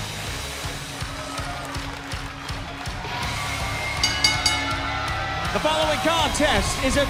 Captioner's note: crowd cheering